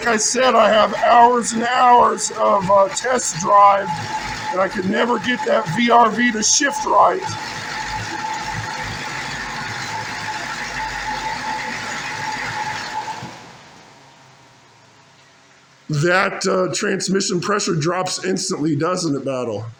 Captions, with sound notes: Like I said, I have hours and hours of; uh, test drive and I can never get that VRV to shift right. [engine idles & stops] That; uh, transmission pressure drops instantly, doesn't it Battle?